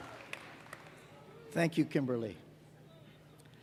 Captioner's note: cheers and applause